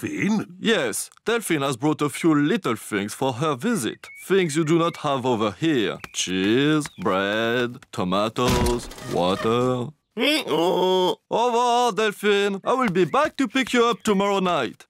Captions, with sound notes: Yes. Delphine has brought a few little things for her visit, things you do not have over here. Cheese, bread, tomatoes, water. (BRAYS) Au revoir, Delphine! I will be back to pick you up tomorrow night!